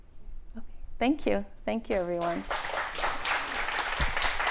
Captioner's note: applause